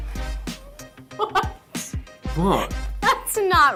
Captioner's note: laughs; laughs